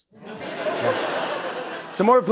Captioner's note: laughter